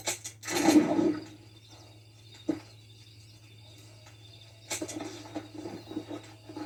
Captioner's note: cricket sound and save camp; cricket sound and save game